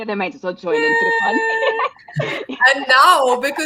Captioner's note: laughing